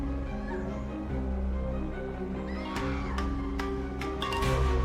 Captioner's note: distant screaming; dramatic music